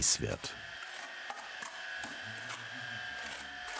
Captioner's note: machine hums in the background